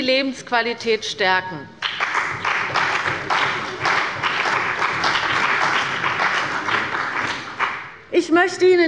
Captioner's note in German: Beifall bei der CDU und dem BÜNDNIS 90/DIE GRÜNEN